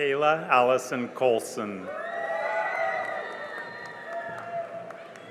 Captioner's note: cheering and applause